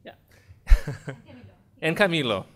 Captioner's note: laughing